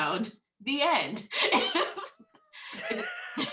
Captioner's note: laughs